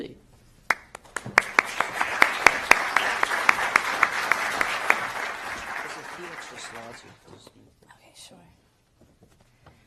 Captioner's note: applause